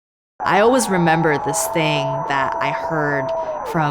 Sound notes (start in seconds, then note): 0.5 audience cheering